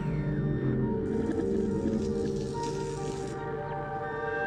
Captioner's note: electric zapping